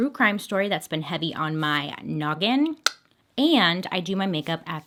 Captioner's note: clicks